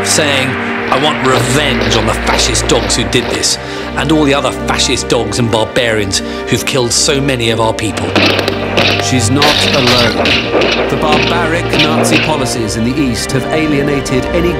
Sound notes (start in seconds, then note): 8.1 guns roaring